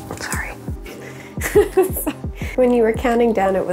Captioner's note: laughs